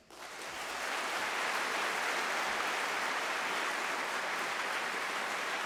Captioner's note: applause